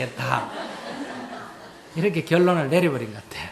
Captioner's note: audience Laughter